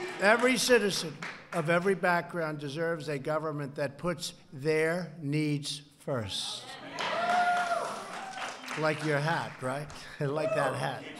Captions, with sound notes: Every citizen, of every background, deserves a government that puts their needs first. ( applause) Like your hat, right? (Laughs.) Like that hat.